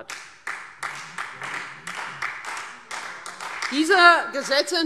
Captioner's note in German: Beifall